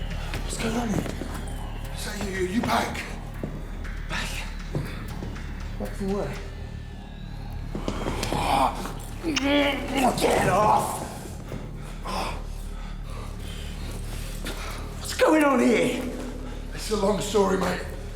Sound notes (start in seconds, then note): 8.3 grunts, kisses; 11.2 exhales